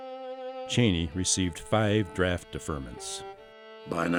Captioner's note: voiceover